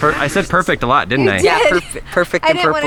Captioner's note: laughs